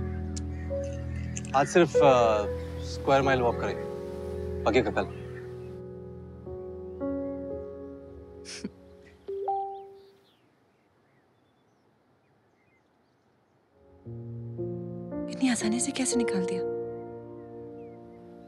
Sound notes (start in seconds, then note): 8.4 Chuckles; 9.3 Cell phone dings